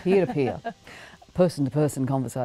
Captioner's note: laughs